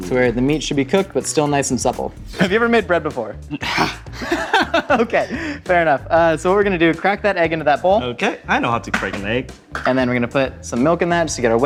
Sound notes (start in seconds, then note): 3.6 laughing